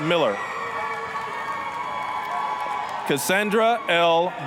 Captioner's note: applause, cheering